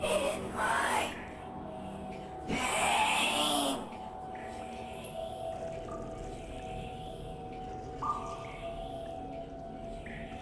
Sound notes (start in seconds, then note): 3.8 water dripping